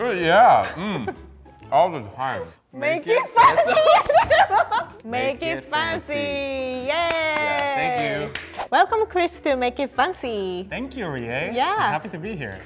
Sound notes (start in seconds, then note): 3.4 laughing; 6.9 clapping